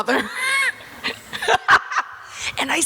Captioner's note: Selma laughs